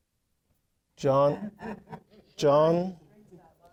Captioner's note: audience laughing